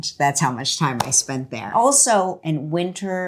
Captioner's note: hands clapping